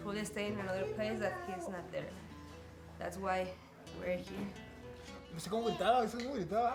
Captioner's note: speaking in Spanish